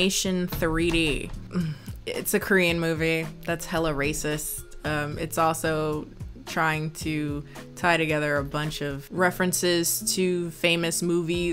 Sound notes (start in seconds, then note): 1.4 sighs